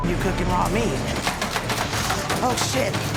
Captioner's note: beeping; button punching